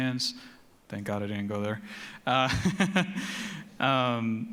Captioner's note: chuckles